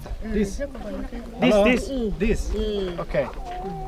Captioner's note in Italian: Inglese